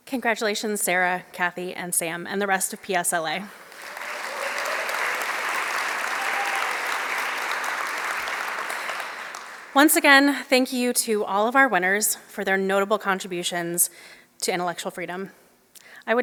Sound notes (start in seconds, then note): 6.0 applause